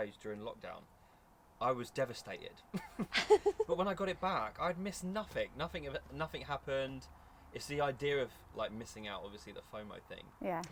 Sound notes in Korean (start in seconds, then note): 2.7 웃음